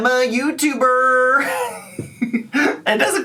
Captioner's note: laughs